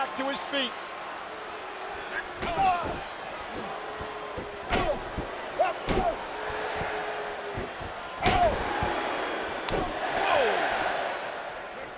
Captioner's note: applause